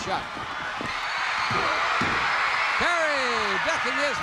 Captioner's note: crowd cheers